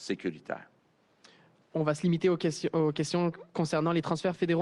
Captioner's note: speaks French